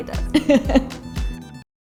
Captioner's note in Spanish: Ambas se ríen